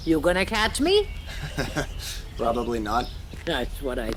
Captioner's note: chuckles